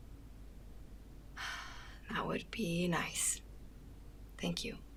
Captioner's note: exhales